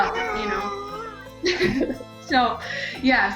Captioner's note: baby cooing; laughing